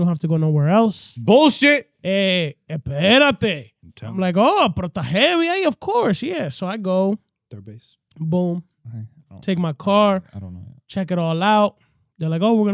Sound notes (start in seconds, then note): 3.6 speaking In Foreign Language